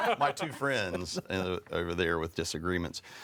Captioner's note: people laughing